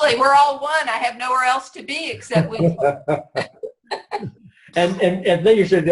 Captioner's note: laughs